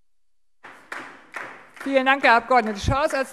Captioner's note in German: Beifall AfD